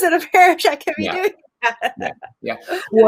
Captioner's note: laughs